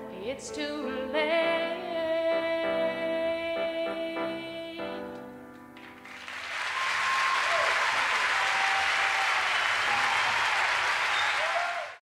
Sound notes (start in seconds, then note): 5.8 audience applauding